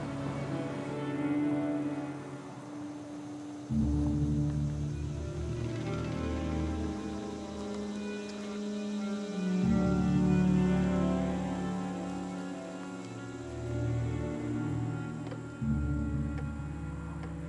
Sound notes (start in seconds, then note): 2.1 cicadas buzzing; 14.3 somber music